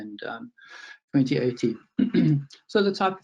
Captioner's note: clears throat